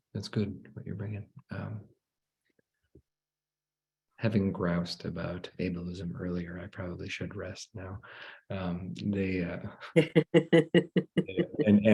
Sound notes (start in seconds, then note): 8.7 laughs